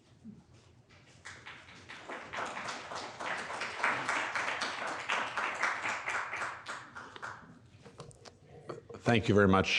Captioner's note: applause